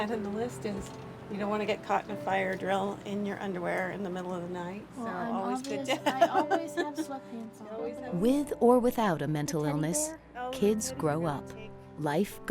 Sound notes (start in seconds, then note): 5.9 laughs